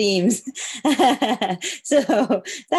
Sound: laughs

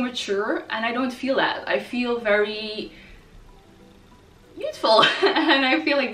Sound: laughs

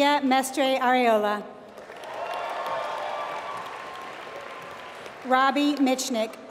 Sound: applause

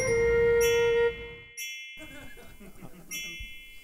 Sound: twinkle

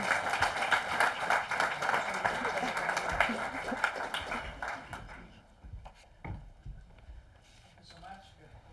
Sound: applause

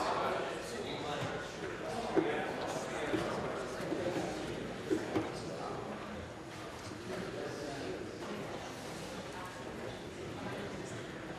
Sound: conversation din

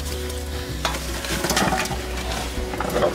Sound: rustling

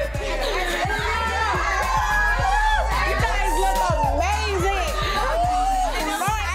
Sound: ladies screaming

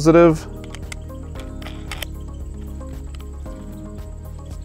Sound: screw spins

